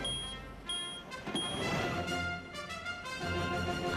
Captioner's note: beeping